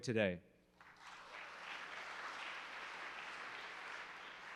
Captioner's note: applause